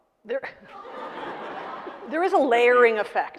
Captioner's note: audience laughing